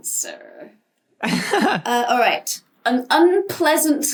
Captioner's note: laughs